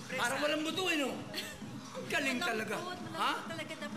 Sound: chuckles

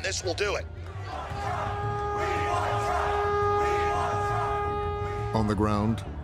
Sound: chanting

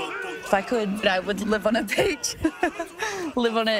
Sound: laughs

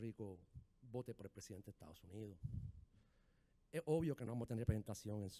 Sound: speaking in foreign language

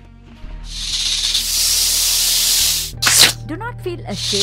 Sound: cobra hissing and snarling

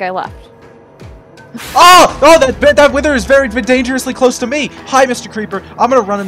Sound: explosions, music intensifies

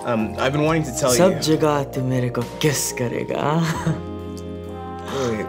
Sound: speaking Hindi

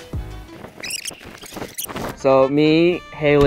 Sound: VHS tape squeaking sound effect

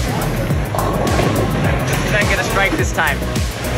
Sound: bowling balls crashing

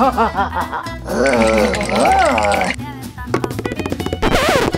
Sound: vampire laughing; monsters groaning

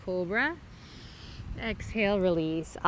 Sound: inhales

